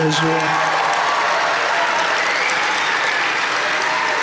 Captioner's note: audience cheering